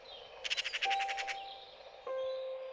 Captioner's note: birds tweeting